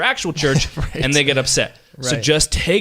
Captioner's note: laughs